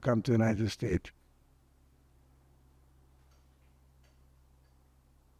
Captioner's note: pauses 8 seconds